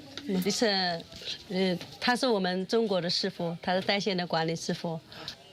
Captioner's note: speaking foreign language